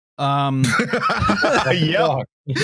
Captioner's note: laughs extremely